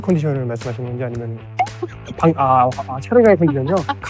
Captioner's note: haha